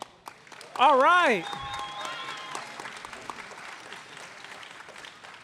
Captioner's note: audience applauding